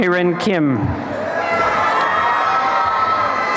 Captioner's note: applause and cheering